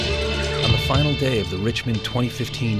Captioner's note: voiceover